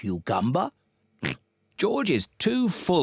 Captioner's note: oinks